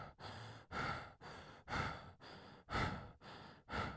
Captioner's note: heavy breathing